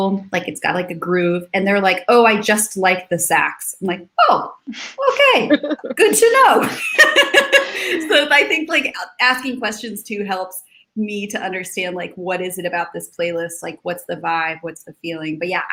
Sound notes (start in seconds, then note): 4.7 laughs